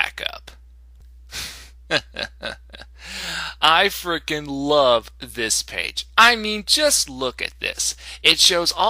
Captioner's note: chuckle